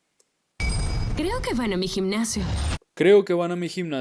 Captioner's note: speaking in Spanish